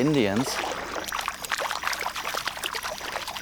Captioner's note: water splashing